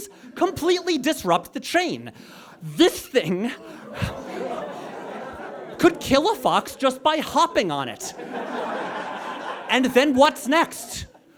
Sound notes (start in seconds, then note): 3.5 audience chuckles and groans; 7.9 audience laughs